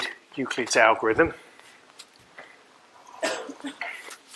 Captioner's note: coughing